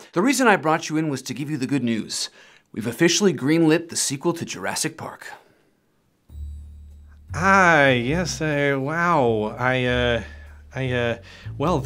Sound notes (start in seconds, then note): none